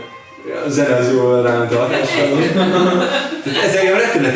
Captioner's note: laughing